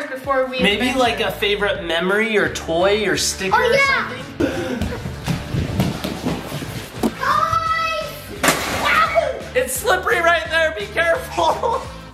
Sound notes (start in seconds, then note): 4.4 feet patter